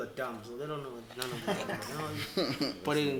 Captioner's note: everybody laughs